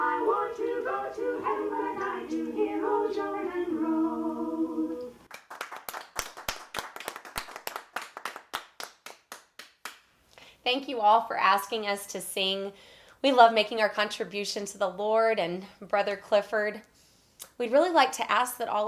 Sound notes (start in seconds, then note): 5.2 applause